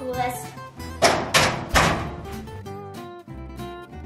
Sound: doors banging; soft music

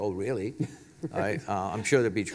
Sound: laugh

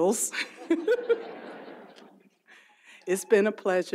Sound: audience laughs; laughs

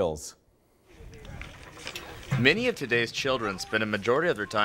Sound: voiceover

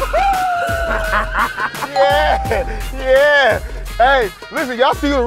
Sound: laughing

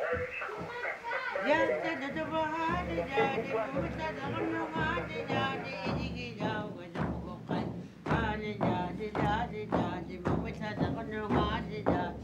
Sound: group Chanting

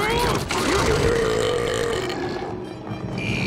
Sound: burping

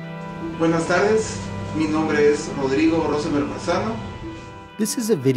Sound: speaks in foreign language

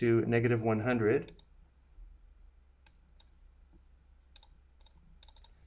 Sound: computer mouse clicking

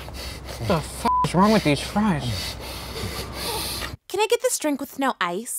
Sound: beep

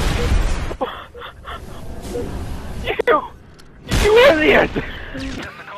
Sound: laughing

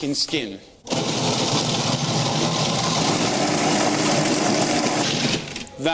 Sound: loud blender noise

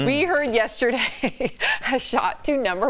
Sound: laughter

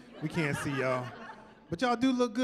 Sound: laughing

